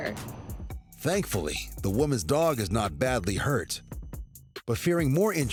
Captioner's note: none